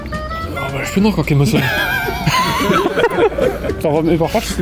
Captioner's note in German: auf Sächsisch